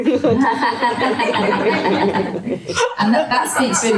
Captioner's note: audience laughter